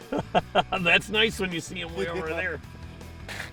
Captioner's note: laughter